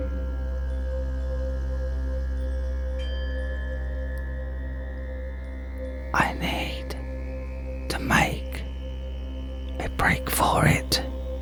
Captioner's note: whispering